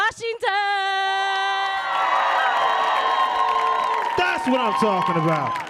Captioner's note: audience cheering